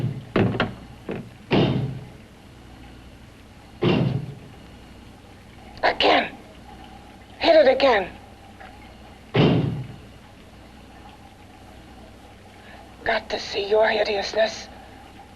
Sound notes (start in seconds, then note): 0.3 banging; 9.3 door banging